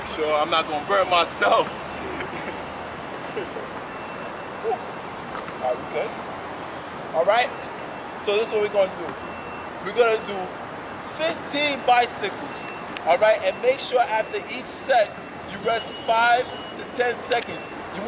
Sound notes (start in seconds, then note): 2.0 laughs